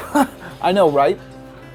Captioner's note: laugh